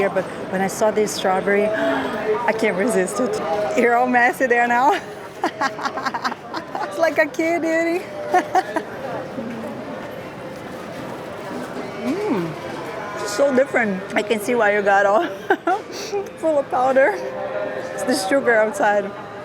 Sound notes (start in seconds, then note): 4.9 laughs